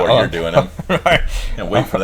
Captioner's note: laughs